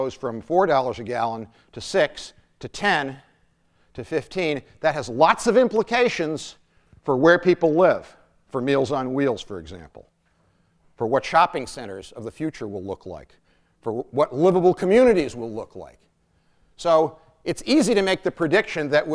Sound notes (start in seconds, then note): none